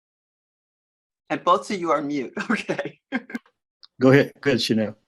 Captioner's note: chuckles